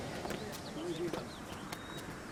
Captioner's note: footsteps